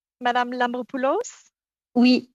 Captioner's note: speaking French